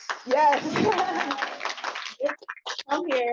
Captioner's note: applause